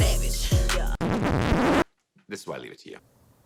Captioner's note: record scratching